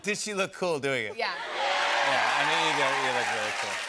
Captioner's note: cheers and applause